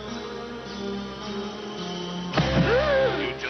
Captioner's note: gasps